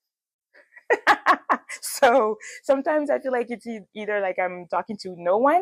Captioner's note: laughs